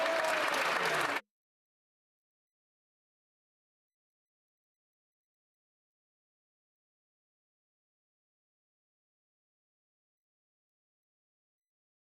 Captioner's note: some Applause